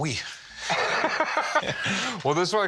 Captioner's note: both laugh